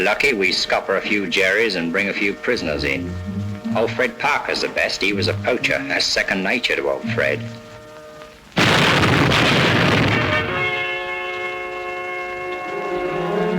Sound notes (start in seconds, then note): 8.5 bombs exploding; 10.3 suspenseful music